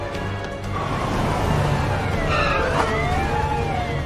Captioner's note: sirens wailing